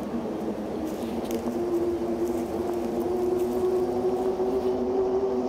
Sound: eerie music; light footsteps

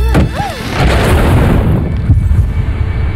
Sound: loud crash; loud heartbeats

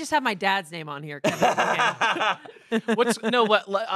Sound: laughs

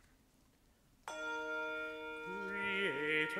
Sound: bell ring

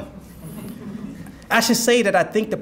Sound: audience laugh

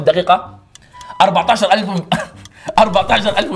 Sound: laughs

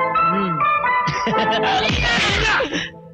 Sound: all Laughing

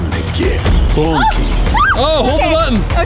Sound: shrieks

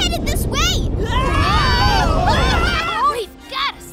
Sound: screaming

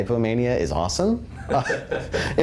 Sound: laugh

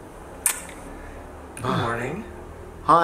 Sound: lips clicking

